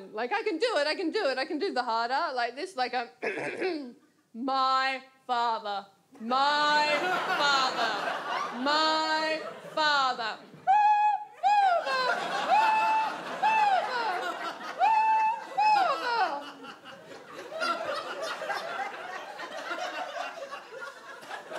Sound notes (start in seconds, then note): 3.2 clears throat; 10.5 high pitch voice; 16.8 audience laughs